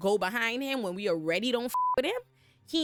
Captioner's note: beep